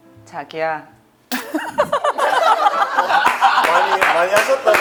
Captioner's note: fails to hold back her laughter